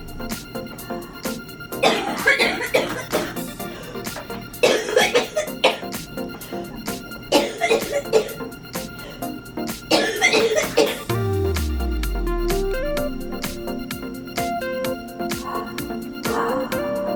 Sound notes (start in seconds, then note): 1.8 coughing